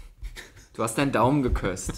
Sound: laughs

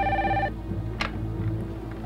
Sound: phone ringing

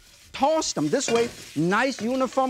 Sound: wok clinks

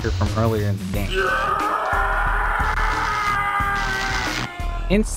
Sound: screaming

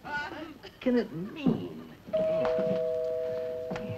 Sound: doorbell

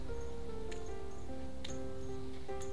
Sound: bell clinking

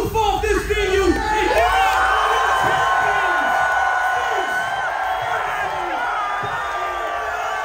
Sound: crowd cheering; emcee shouting indistinct

